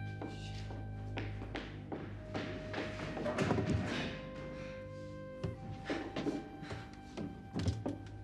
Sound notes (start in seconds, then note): 5.7 breathing heavily